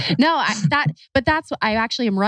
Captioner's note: laughs